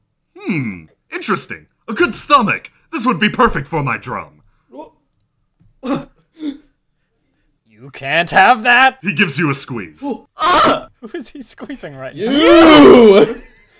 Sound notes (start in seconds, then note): 5.9 makes a panicked noise; 10.4 sounds grossed out and pained